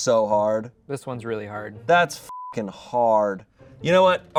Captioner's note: beep